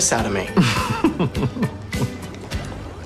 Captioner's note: laughing